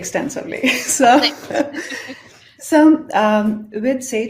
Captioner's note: chuckling